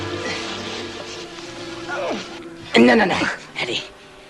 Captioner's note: grunts